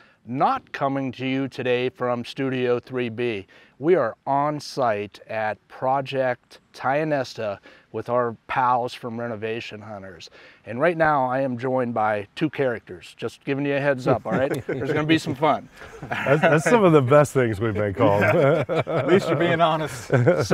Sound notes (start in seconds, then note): 14.0 all laughing